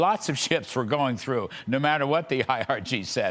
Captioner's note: laughter